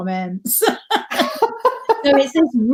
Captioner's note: laughing